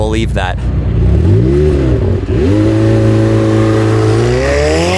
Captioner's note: car engine revving